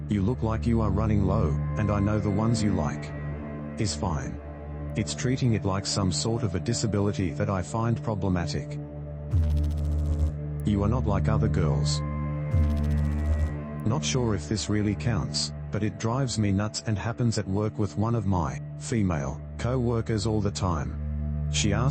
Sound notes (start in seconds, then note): 9.3 electrical noise; 12.5 electrical noise